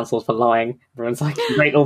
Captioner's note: gasps